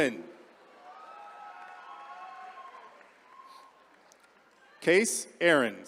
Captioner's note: attendees cheering